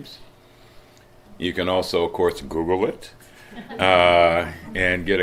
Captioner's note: slight laughter